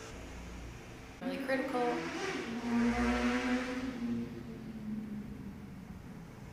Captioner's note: street noises